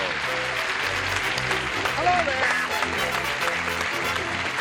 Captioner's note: applause